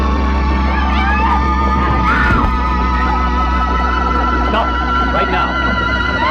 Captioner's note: screaming